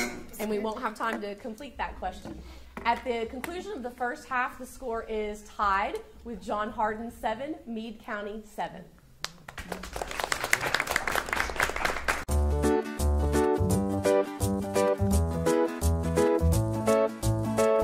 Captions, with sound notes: And we won't have time to complete that question. At the conclusion of the first half, the score is tied with John Hardin seven, Meade County seven. (audience applauding) (upbeat music)